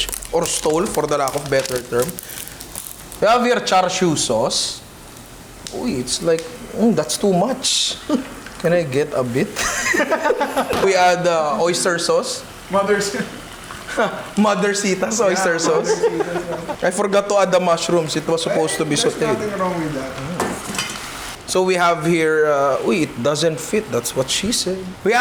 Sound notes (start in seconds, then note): 9.5 laughter; 15.1 laughs